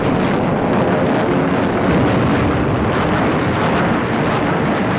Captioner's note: guns firing and plane engines